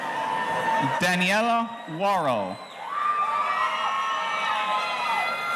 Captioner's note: audience cheering